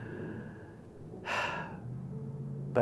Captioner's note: sighs